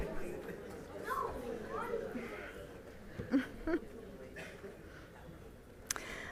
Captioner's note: audience chatter